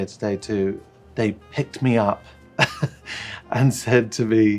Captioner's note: chuckles